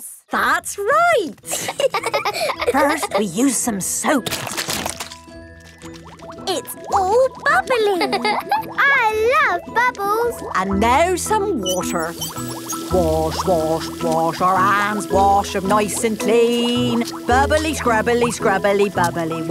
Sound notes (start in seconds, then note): 1.4 laughing; 3.8 squirt! squirt!; 12.1 sings to the tune